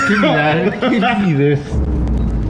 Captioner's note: laughing